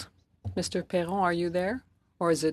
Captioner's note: speaking French